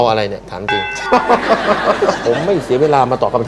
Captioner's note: laughter